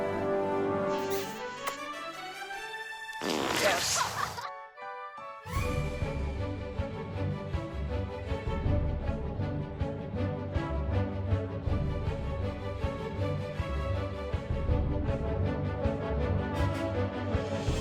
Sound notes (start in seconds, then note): 3.2 llama pooping; 5.5 upbeat expectant music